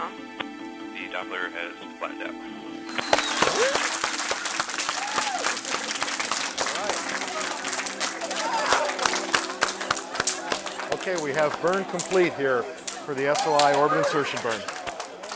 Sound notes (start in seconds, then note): 2.7 people applauding and cheering